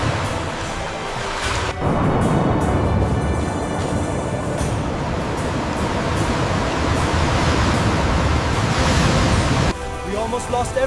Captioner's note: water rushing